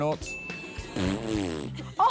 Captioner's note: ding!; blows raspberry